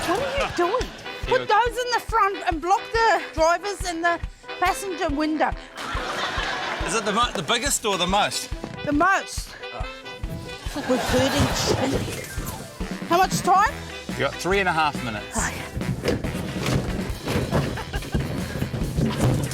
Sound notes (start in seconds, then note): 15.6 objects clatter